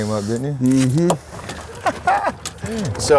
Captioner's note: laughs